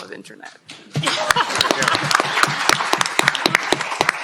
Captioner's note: cheering, applause